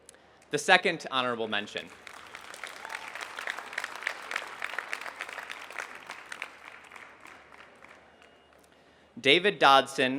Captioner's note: applause